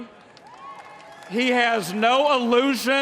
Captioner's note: applause